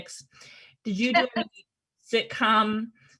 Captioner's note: Kathryn laughs